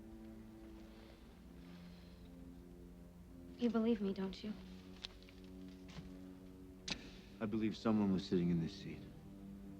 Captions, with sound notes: (Dominic breathes uneasily) You believe me, don't you? - I believe someone was sitting in this seat.